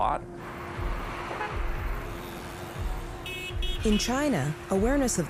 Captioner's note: car horns honking